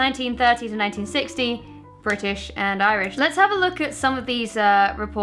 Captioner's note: none